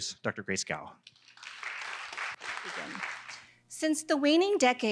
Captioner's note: applause